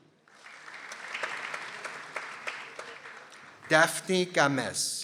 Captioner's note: people applauding